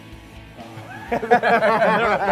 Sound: laughter

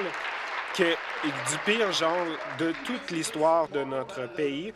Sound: applause

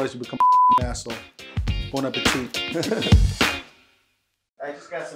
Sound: laughs

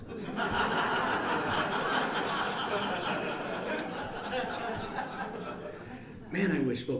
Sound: laughter

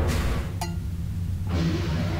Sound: clank

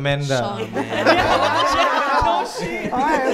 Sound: laughters

